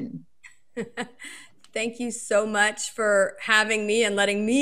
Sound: laughs

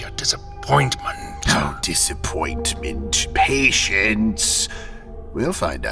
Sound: mocking

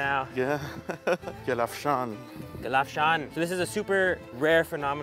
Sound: speaks in foreign language

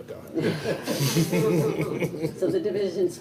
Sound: all chuckle

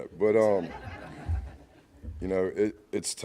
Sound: laughing

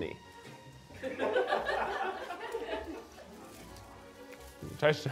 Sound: crew laughing

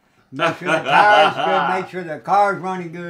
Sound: laughing

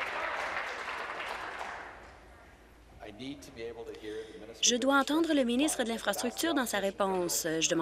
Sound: applause

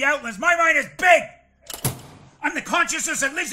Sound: door clicks

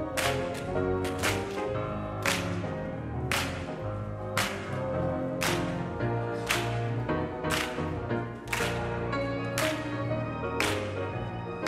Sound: clapping

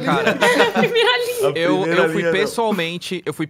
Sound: laughs

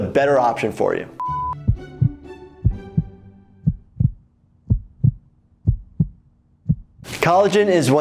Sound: heart thumping

